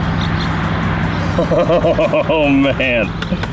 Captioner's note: laughs